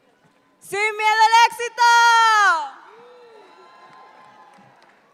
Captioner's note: speaks in Spanish